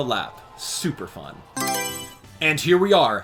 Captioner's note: Mario Selection Sound